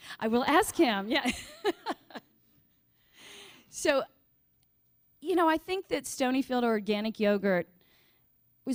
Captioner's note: laughs